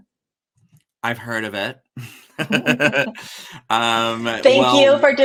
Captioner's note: both laugh